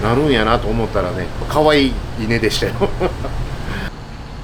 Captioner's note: laugh